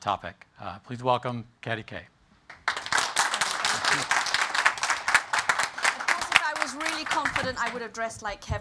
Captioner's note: applause